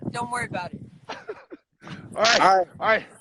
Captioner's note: laughs